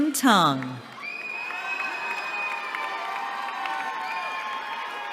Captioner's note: cheering